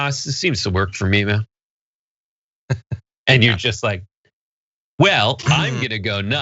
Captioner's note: laugh